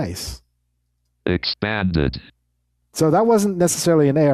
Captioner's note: automated Voice